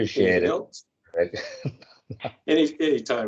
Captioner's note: chuckles